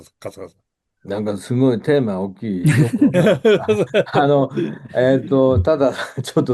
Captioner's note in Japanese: 笑い